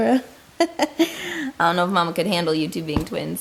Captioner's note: laughs